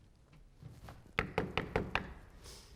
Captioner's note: knocks door